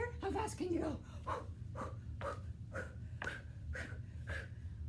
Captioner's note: breathing heavily